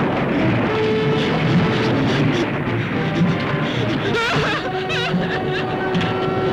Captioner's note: crying; gasps